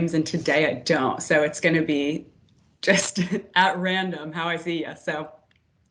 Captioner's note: laughs